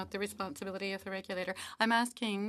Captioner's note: speaking French